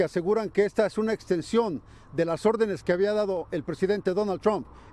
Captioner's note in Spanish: habla en inglés